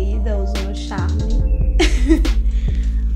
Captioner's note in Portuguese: risos